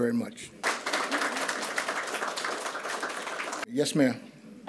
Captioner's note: audience applauds